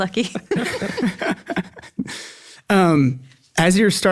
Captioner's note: all laugh